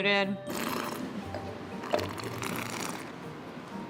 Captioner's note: slurps